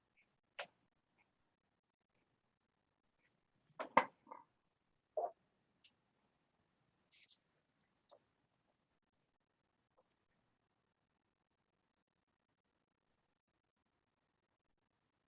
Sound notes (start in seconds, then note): 4.1 silence